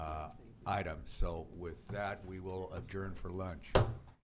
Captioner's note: gavel